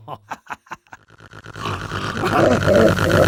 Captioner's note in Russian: смешок; нарастающее хрюканье; хрюканье переходит в звуки из ада